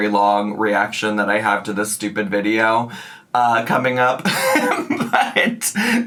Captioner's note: laughs